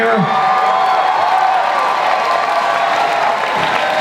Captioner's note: audience cheers